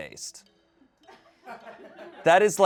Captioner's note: audience laughing